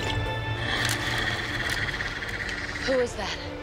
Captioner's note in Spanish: Drogo gruñendo